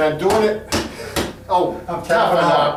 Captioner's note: slapping table